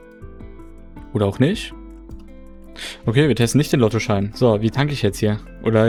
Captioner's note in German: schnauben